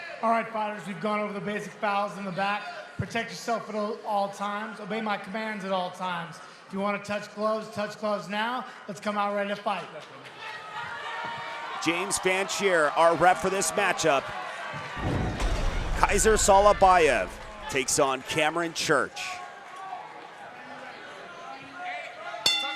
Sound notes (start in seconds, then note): 10.1 audience cheering; 15.1 whoosh sound effect